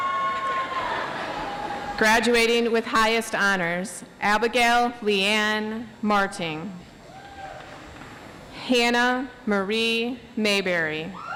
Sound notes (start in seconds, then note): 0.6 audience laughs